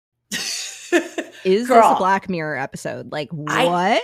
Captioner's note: laughs